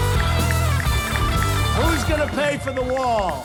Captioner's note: ticking